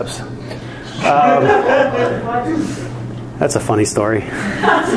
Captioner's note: students laughing